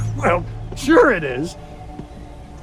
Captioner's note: chuckles